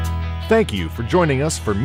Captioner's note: voiceover